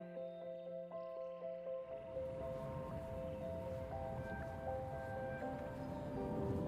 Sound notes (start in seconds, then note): 0.0 gentle instrumental music; 2.0 birds chirping